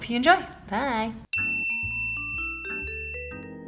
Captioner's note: bell dings